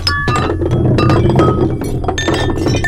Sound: glass clinking loudly

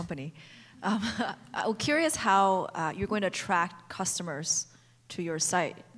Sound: laughs

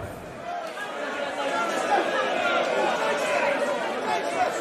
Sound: crowd shouting

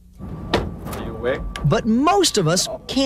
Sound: male Voice

